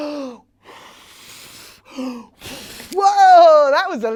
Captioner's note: blowing air sounds can be heard